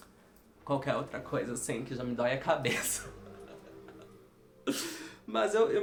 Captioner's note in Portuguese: risos irônicos